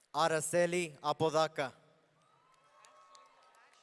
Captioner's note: audience cheering